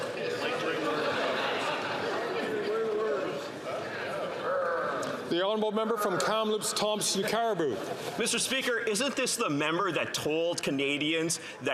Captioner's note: chatter; laughter